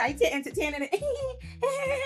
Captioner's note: laughs